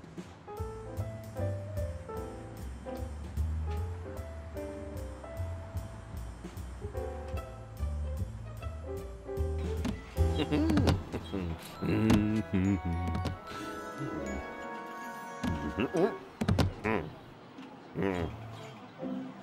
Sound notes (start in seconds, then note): 0.1 jazz music; 10.3 mumbles happily; 16.7 grunts